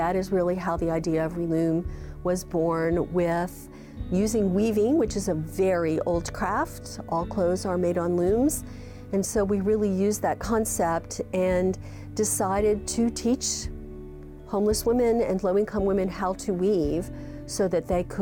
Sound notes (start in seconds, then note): none